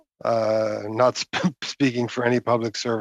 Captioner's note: speaking French